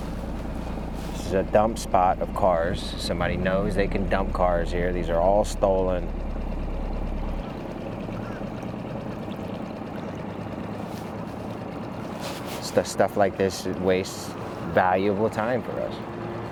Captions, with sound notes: This is a dump spot of cars. Somebody knows they can dump cars here. These are all stolen. (gentle music) (motor droning) It's the stuff like this wastes valuable time for us.